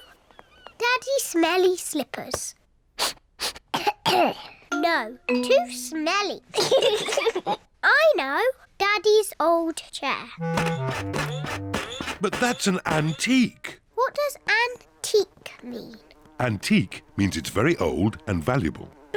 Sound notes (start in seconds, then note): 3.0 sniffs and coughs; 6.6 both laugh